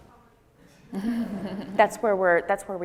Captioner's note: audience laughing